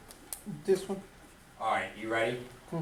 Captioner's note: voiceover